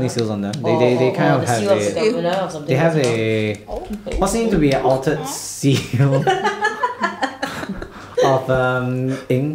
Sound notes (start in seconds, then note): 3.4 seal noises; 5.8 laughter